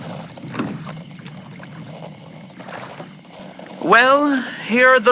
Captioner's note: Alastor stops rowing fx